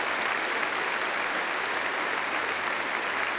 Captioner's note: applause